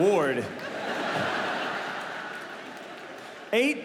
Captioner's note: audience laughing